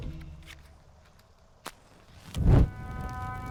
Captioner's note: splashing